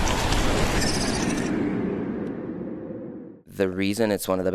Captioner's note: air whooshing; animal chirping